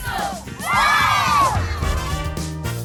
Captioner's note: all cheer